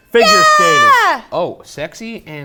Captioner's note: exclaiming